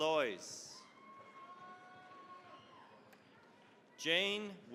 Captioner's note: cheering, applause